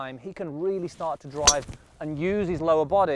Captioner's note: thwack sound